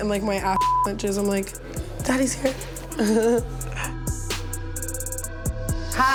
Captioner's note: chuckles